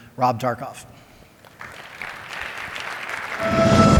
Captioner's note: applause